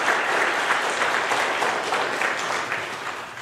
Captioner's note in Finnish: aplodeja